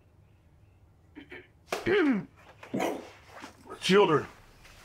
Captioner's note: clears throat